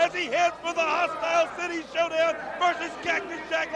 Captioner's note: crowd cheering